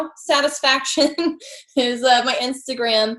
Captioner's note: laughs